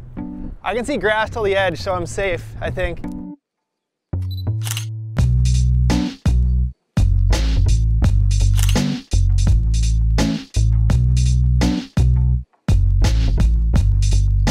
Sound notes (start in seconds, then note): 4.2 camera beeps and clicks; 8.5 camera beeps and clicks